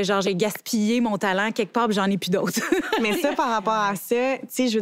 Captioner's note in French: rires